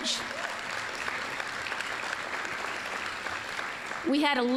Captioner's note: applause